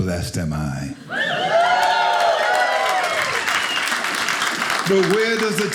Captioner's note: audience cheers